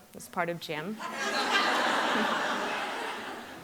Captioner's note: laughter